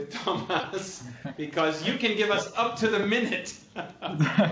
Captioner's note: laughter